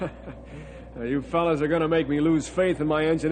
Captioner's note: laughs